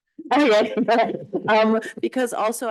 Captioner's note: chuckling